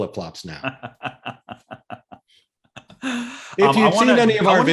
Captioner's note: laughing